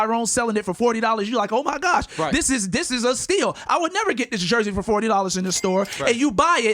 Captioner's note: cha-ching